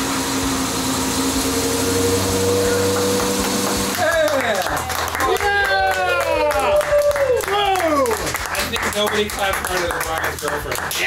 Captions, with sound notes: (cheering and clapping!) I thing nobody clapped louder than Brian's girlfriend